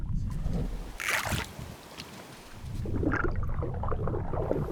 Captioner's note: water sloshes